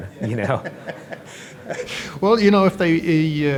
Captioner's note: laughing